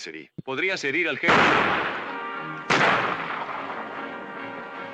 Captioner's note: gunshots